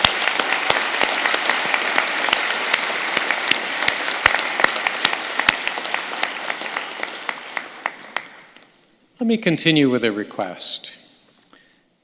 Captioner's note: applause